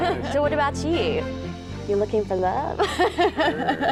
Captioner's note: laughing